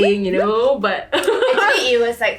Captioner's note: laughs